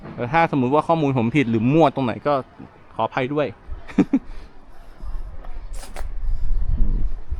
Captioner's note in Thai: เสียงหัวเราะ